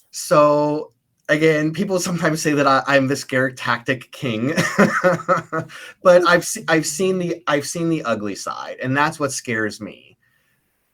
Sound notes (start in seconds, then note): 4.5 laughs